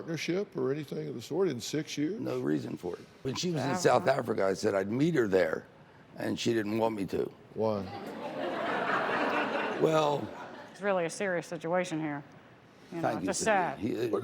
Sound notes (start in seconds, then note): 8.0 laughter